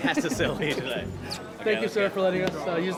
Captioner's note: laughter